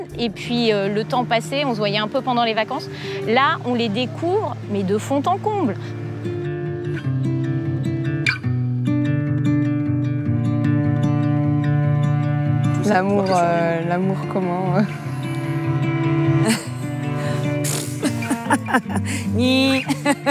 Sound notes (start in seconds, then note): 16.4 she laughs